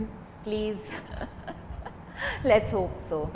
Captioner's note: laughs